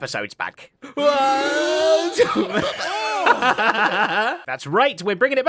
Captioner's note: laughs